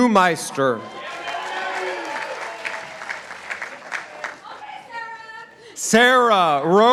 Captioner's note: participants applauding